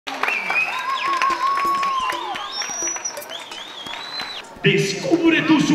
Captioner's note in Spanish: Sonido de público